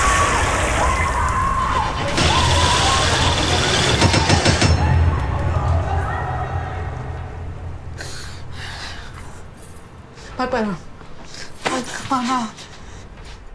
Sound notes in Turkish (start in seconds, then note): 0.0 Çığlık sesi; 0.1 Müzik - Gerilim; 8.0 Nefes sesi